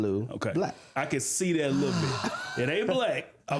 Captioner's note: laughter